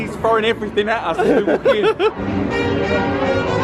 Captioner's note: laughing; upbeat nostalgic music